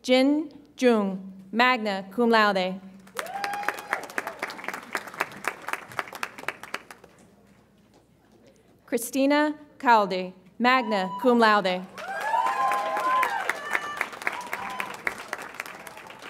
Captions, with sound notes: Jin Jeung, magna cum laude. (audience applauds and cheers) Christina Kalde, magna cum laude. (audience applauds and cheers)